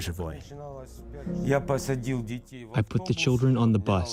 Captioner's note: through translator